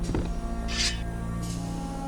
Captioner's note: thud; sword unsheathed